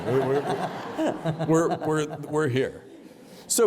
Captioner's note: laughter